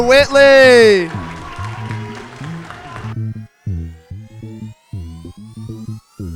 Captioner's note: audience cheers and applauds